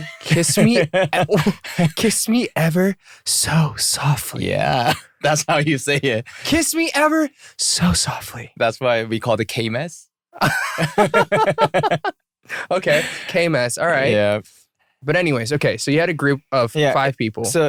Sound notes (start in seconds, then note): 5.2 laughter; 10.4 laughter